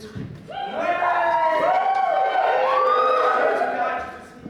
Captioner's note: audience cheers